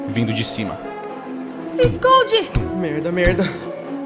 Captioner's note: thump, thump